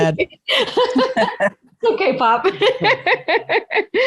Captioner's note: laughing